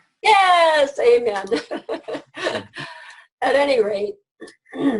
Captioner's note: laughs